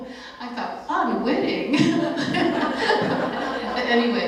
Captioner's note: laughter